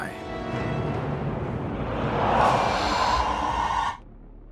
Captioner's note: wailing Sound Effect